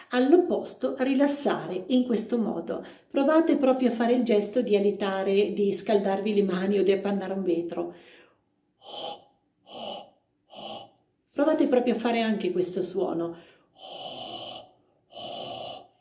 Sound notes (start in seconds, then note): 7.9 hhhaaaa sound